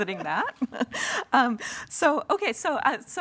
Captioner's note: panelists laugh